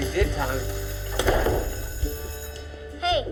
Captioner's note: bell rings